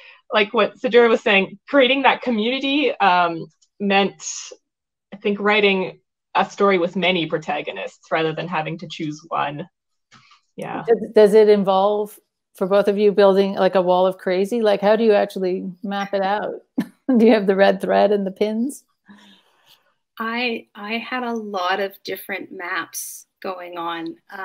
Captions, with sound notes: like what Sidura was saying, creating that community meant, I think writing a story with many protagonists rather than having to choose one. Yeah. - Does it involve, for both of you, building like, a wall of crazy? Like, how do you actually map it out? (chuckles) Do you have the red thread and the pins? - I had a lot of different maps going on